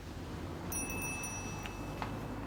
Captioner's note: doorbell